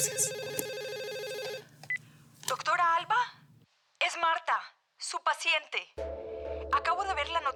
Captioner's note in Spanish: Suena el teléfono